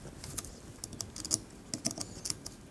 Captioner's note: quiet working noises